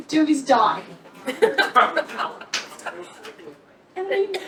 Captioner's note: laughter